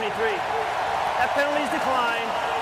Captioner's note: cheering